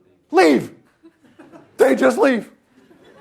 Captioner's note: laughter